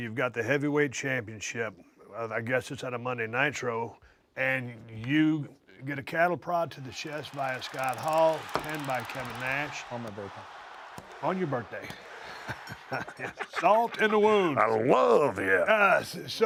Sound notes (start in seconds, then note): 11.5 laugh